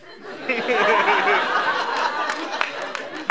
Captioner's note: laughter